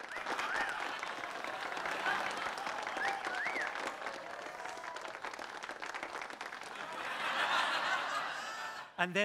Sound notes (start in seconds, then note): 3.2 audience laughs